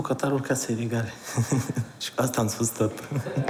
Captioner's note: laughs